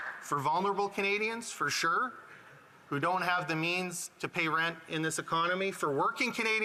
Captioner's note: applause